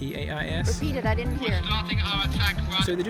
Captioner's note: radio